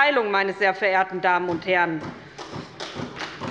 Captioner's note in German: Beifall bei der SPD